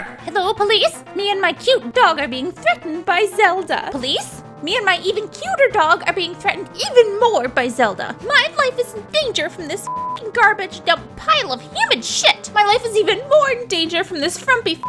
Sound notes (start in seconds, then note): 9.8 beep sound